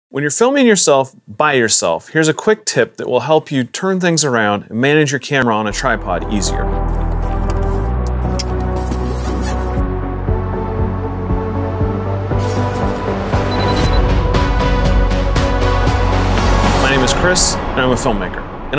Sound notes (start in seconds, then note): 6.8 camera noises; 6.8 theme music builds; 8.1 zipper closes; 8.9 theme music builds; 12.4 bag rustles; 13.3 digital beeps; 13.4 theme music builds